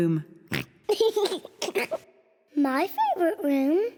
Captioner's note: chuckles; oinks and laughs